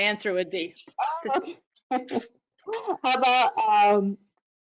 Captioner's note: laughs